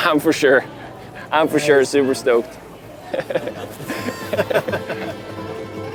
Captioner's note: laughs